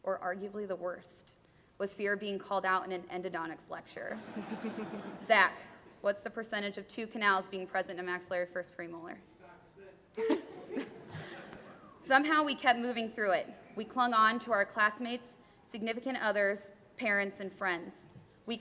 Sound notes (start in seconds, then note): 4.1 laughter; 9.5 voiceover; 10.2 laughter